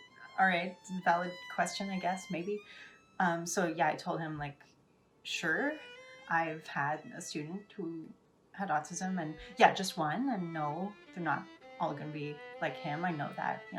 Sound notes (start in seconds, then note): none